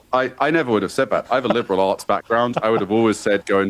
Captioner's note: laughs